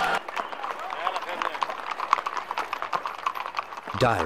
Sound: hooves clopping

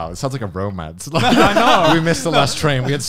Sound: laughing

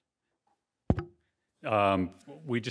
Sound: mic thuds

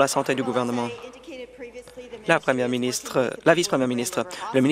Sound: applause

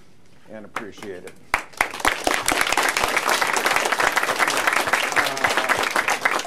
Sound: applause

